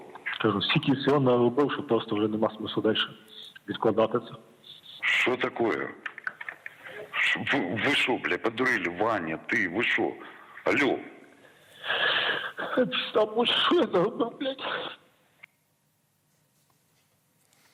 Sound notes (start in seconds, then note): 4.8 speaking Russian